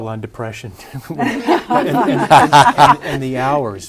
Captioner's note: laughter